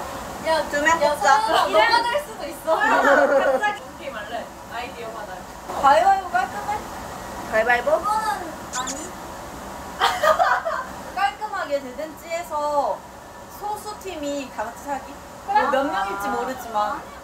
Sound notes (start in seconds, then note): 10.0 haha